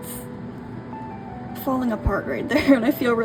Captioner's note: laughs